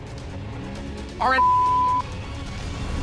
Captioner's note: beep